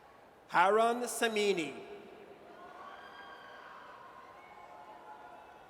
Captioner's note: audience cheers